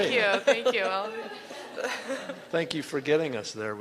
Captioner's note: laughter